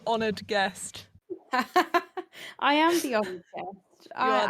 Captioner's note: laughs